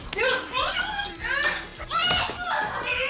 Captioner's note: grunting